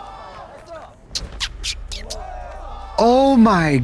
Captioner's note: kissy sounds